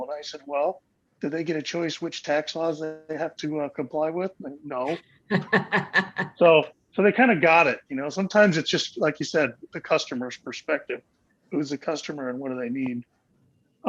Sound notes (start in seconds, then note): 5.3 laughs